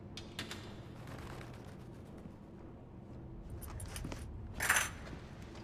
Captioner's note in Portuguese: batida das algemas